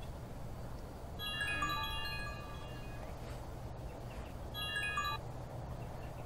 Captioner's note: phone rings